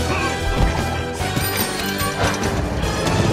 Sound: bike bells sounds

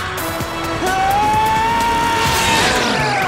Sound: screaming

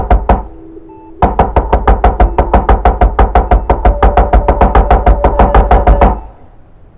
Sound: door knocking continues

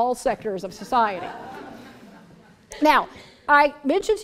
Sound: laughter

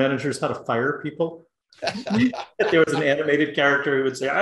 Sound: laugh

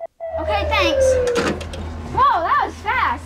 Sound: phone clanking

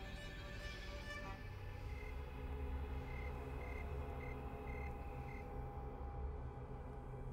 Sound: suspenseful music; crickets chirping

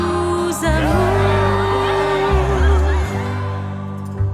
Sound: whoops and cheers from the audience

